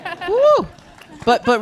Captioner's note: panelists laughing